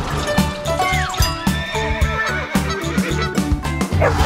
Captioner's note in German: Bellen und Gackern